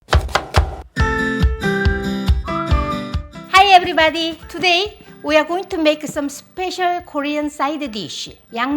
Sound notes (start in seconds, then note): 0.0 knife chopping; 1.0 bright music